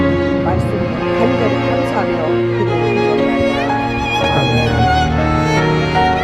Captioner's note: speaking in foreign language